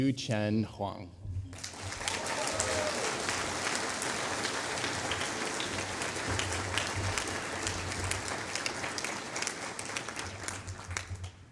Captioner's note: applause